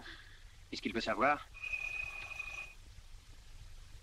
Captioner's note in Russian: звонок